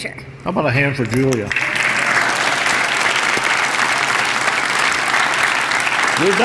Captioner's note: applause